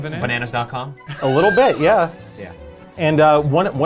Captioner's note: laughing